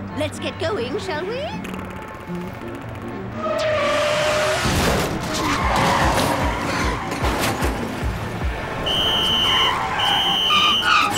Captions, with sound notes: LET'S GET GOING, SHALL WE? (tires screeching) (blowing whistle)